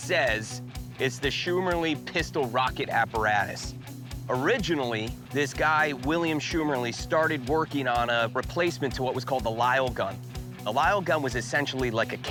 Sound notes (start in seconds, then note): none